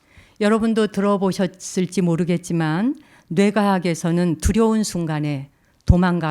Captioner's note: speaking in Korean